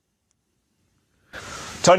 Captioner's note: gasp